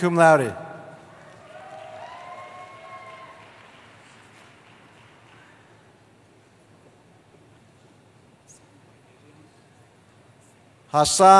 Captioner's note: cheering